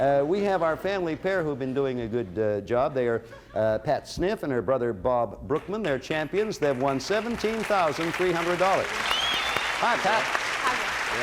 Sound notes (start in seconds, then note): 8.9 cheers and applause